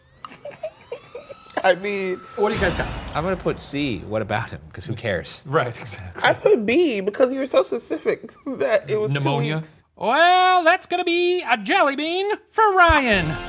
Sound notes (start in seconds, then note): 0.2 laughs